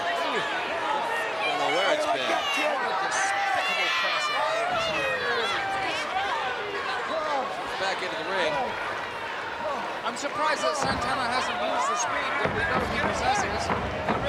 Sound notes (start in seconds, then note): 2.4 crowd clamoring